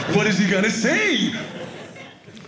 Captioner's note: audience laughing